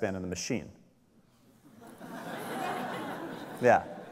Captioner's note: audience laughs